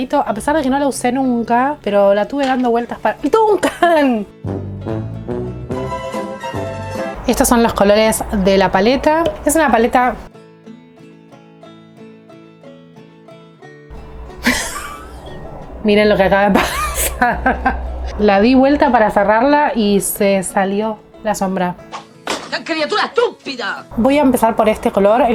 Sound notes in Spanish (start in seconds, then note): 10.0 Risas